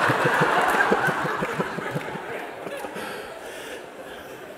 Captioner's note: laughter